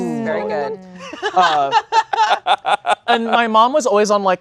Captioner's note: laughing